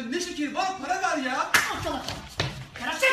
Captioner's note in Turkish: şaplak